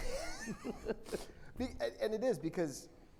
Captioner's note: laughs